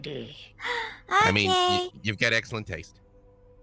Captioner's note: gasps